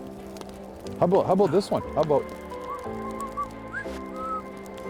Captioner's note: whistling